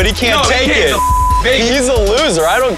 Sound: beep

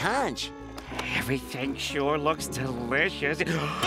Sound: gasping

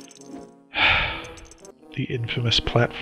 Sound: sighs

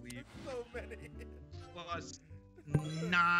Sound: laugh

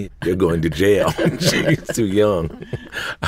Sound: laugh

